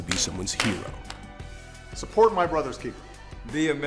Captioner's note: hands clap